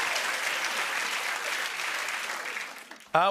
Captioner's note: applause